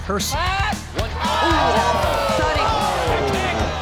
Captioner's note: crowd exclaiming